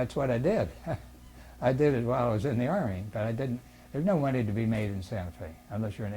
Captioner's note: laughs